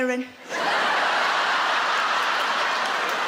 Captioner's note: laughing